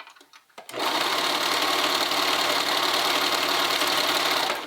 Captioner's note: sewing machine whirring